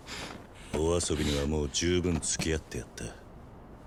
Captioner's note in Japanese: 鼻息